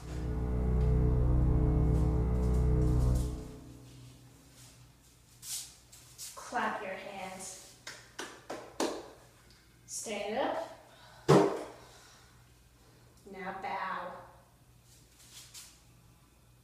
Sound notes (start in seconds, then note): 0.0 intense music; 7.8 claps